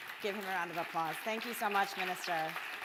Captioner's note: audience applause